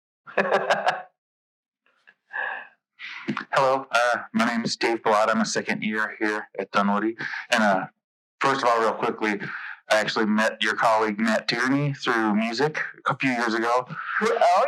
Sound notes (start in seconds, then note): 0.3 laughs